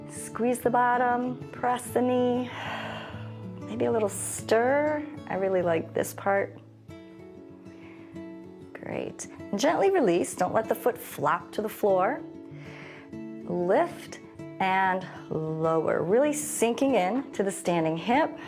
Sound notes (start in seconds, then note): 2.5 exhales